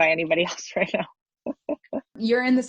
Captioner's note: laughs